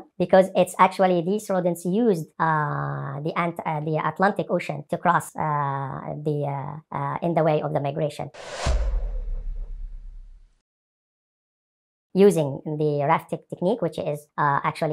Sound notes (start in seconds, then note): 8.4 sound effects